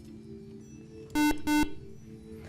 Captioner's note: beeping